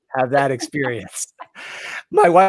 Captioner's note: laughs